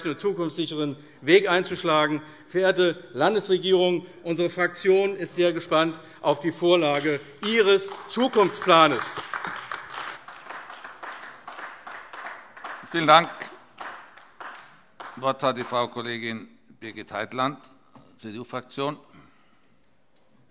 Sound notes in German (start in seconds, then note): 9.7 Beifall AfD